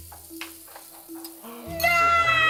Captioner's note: gasps